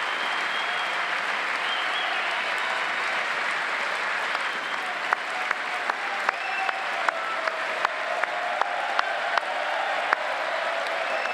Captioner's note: applause